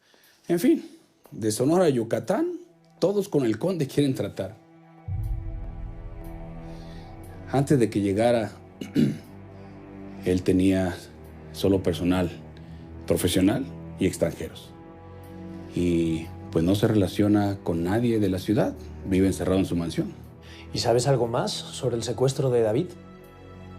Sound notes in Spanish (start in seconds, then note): 12.1 Carraspea